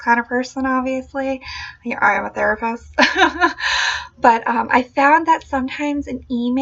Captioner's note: laughing